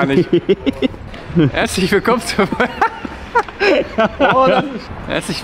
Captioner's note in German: lacht